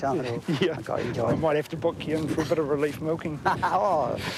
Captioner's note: laughs